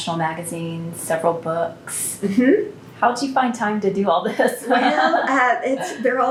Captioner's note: laughs